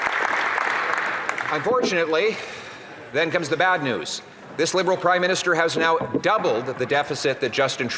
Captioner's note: some Applause